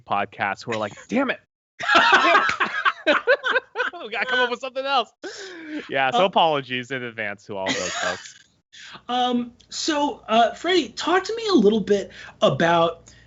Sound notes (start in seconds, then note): 1.8 laughs